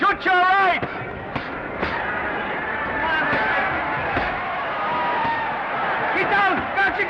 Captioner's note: crowd cheering; punches thudding